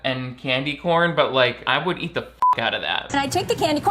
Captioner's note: beep